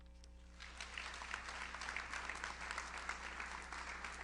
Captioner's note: audience applauds